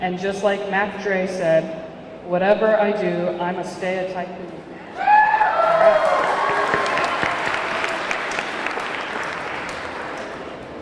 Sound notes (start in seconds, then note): 5.0 audience cheering; 5.4 audience clapping